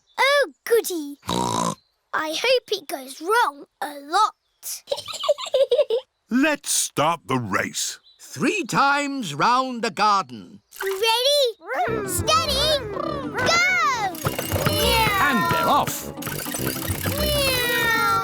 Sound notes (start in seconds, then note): 1.3 snorts; 4.8 chuckles